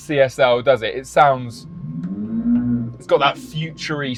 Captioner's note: more revving